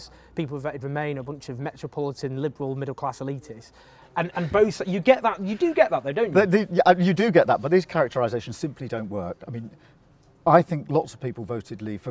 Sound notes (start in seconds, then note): 4.2 laughs